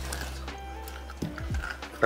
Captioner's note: corn crunching